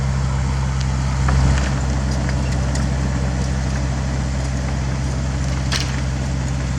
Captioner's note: engine revs